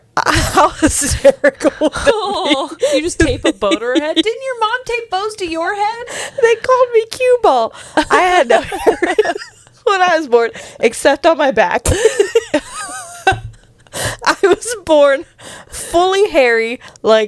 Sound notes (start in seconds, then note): 0.2 laughs; 8.1 panel laughing; 11.9 panel laughing